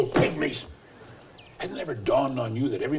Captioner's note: hands slap